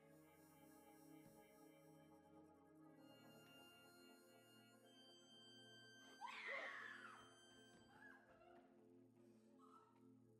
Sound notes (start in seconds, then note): 6.2 girl screams